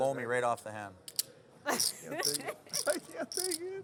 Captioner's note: Boeree laughs